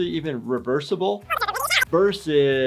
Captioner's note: fast forward squeaking